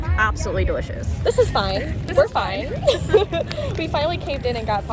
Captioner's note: laughing